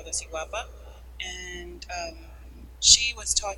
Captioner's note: speaking a foreign language